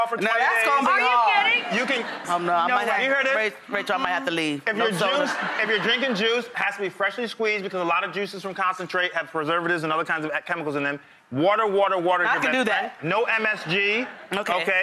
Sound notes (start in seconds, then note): 0.0 laughs; 0.7 audience laughs; 4.7 audience laughs